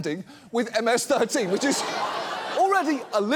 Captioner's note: studio audience laughs